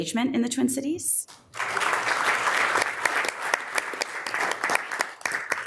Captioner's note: members applauding